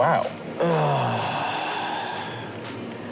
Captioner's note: groans